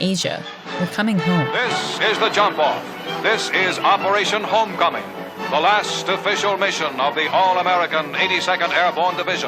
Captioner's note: soundbite of archived recording